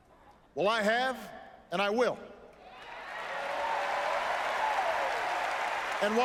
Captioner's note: applause